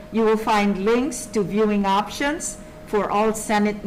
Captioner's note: none